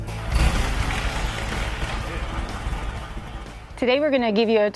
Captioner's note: engine revving